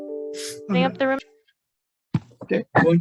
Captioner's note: voice muffling